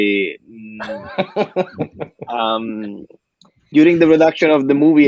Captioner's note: laughs